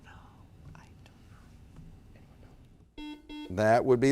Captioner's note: whispers; buzzer beeps